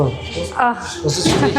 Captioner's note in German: gelächter